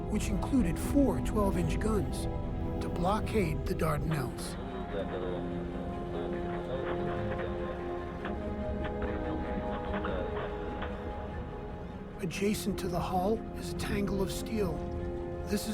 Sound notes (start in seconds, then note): 4.4 man speaking in foreign language; 9.0 Bob speaking in foreign language